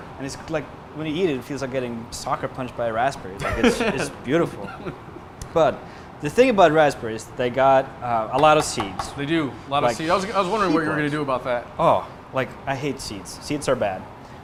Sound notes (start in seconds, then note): 3.4 laughs